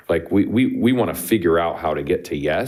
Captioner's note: none